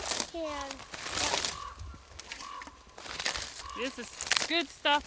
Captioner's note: bark crackling